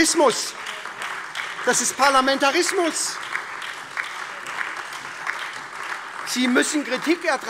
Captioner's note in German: Beifall SPD, AfD, Freie Demokraten und DIE LINKE